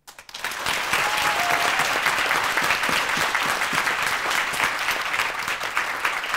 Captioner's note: audience applauding; audience cheering